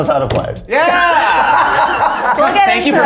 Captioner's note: group laughing